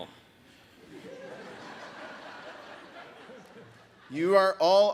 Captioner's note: audience laughs